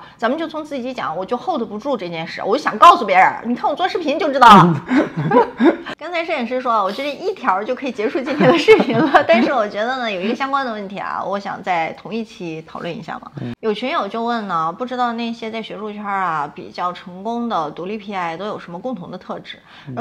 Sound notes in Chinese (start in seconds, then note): 4.6 哈哈哈